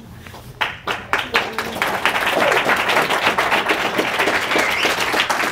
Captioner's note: audience applauding